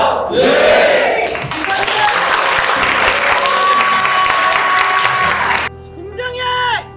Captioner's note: applause